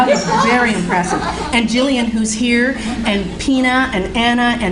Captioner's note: audience laughing